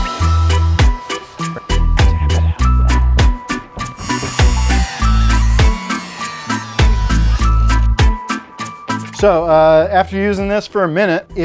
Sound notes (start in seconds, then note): 0.2 rhythmic island music; 3.7 buffer grinding